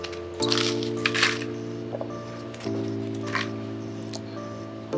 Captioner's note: crackers crushing